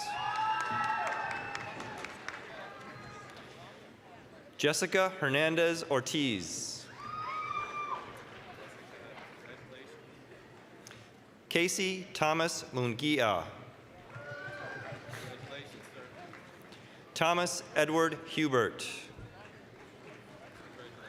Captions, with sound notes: (applause, cheering) Jessica Hernandez-Ortiz. (applause, cheering) Casey Thomas Munguia. (applause, cheering) Thomas Edward Hubert. (applause)